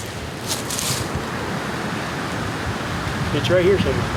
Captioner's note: wind gusting